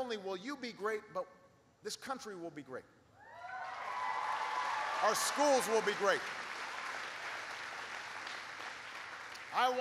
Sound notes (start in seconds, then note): 3.4 applause